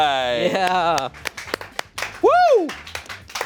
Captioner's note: crew applauds